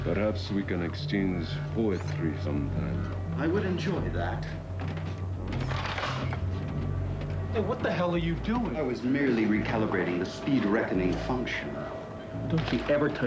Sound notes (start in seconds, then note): 5.2 clicks gun